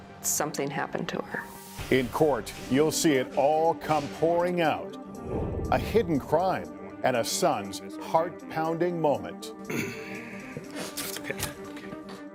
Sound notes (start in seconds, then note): 9.6 clears throat